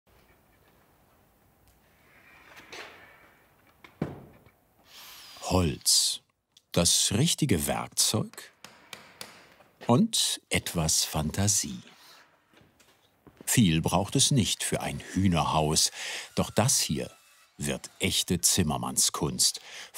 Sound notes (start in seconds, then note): 2.1 soft tinkering noises; 8.3 hammering